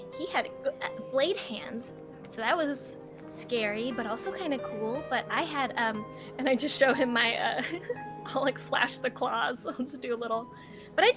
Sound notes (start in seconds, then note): 7.9 laughs